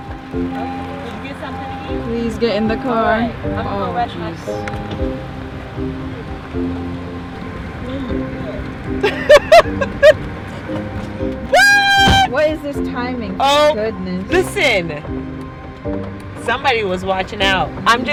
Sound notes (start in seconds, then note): 2.7 laughs